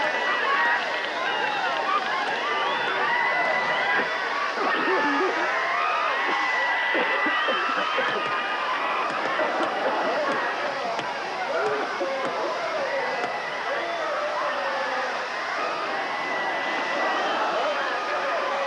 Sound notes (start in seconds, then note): 4.0 coughing; 7.9 clubs smacking on marchers